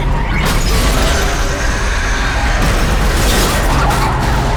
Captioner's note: screeching; glass shattering